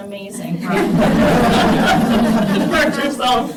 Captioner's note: laughter